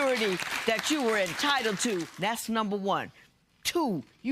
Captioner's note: applause